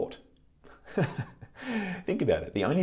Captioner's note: laughs